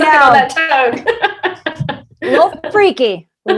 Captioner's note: all laughing